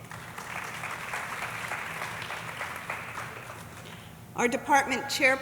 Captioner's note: audience applauding